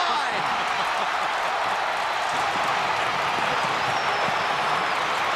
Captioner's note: cheering